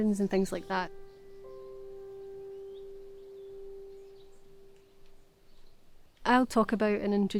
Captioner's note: birds chirping